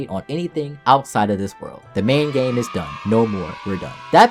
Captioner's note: kids Cheering Sound